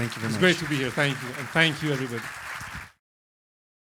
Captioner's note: applause